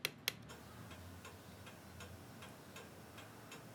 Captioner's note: regular ticking thuds